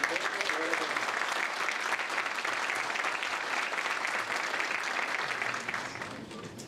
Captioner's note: applause